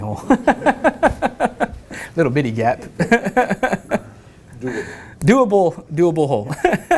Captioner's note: laugh